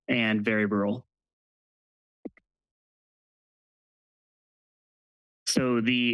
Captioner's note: pause